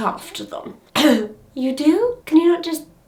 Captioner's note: coughs